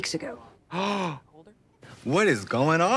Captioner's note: Trixie gasps